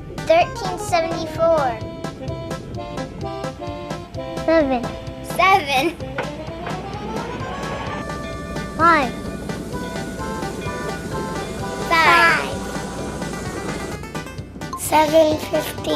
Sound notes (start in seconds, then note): 1.4 energetic music; 6.1 energetic music; 9.7 train huffing